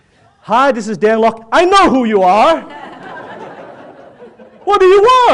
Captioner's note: audience laughs